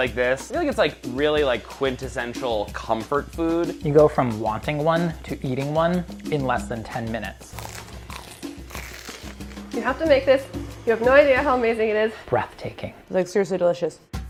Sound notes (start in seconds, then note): 7.5 bread crunching; 14.0 drum music